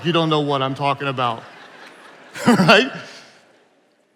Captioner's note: attendees laughing